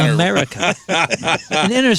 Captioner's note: laughing